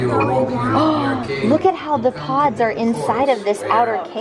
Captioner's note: gasps